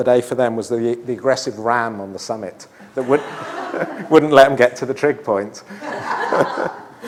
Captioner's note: laughter